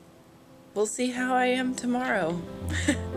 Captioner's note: laughs